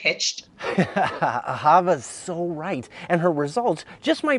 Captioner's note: laughs